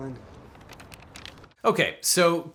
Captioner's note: paper crinkles